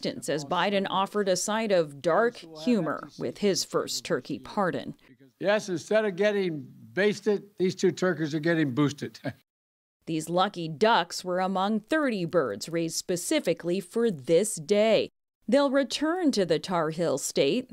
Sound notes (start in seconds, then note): 9.2 laughter